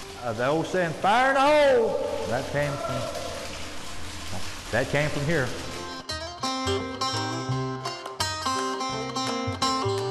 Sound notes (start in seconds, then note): 1.4 distant yelling